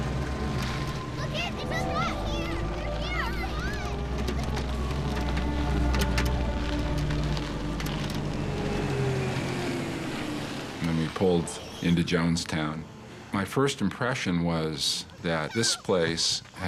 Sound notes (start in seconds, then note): 1.1 children exclaiming excitedly